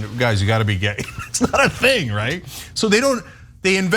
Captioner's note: laugh